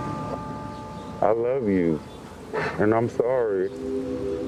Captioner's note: sobs; warm hopeful music